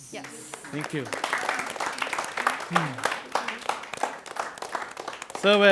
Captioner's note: applause, cheers